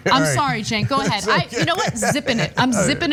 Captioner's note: laugh